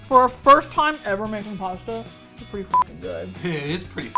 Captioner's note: mouth full